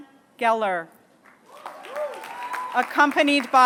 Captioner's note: applause